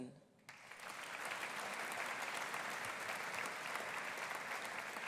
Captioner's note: audience applauding